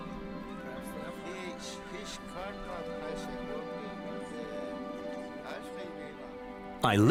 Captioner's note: man speaking Greenlandic